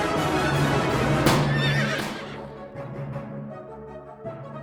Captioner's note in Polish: strzał i rżenie konia